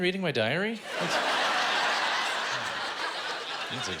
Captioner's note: laughter